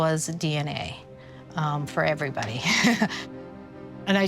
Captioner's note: chuckles